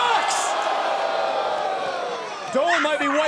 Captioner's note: crowd cheering